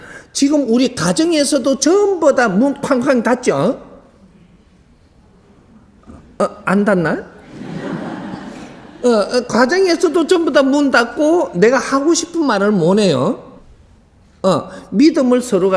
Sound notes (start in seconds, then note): 4.0 audience Silent; 7.4 audience starts to laugh